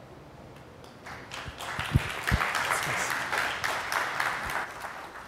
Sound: applause

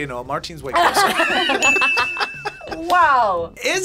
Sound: both laugh

